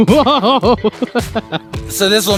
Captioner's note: laughing